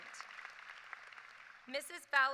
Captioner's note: applause